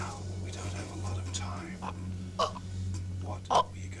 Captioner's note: gurgling